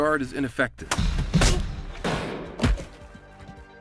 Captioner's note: hits ground